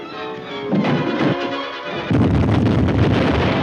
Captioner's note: man clattering; explosion booming